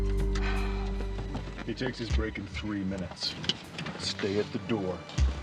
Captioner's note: sighs